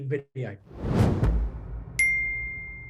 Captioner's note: logo thuds; logo dings